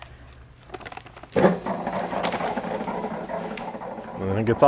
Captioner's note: hopper buzzing